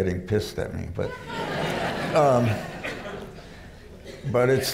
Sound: laughter

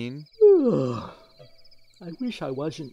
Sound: yawning

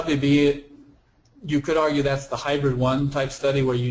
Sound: voiceover

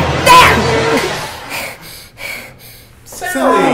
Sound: music stops, sally breathing heavily

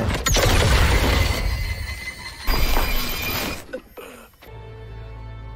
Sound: laser firing; rock cracking; dramatic music

